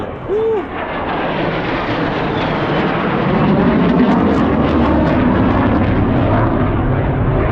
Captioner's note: the insane sound of fighter jets